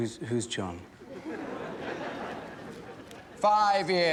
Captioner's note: students laugh